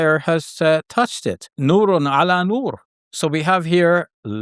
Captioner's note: speaks in Arabic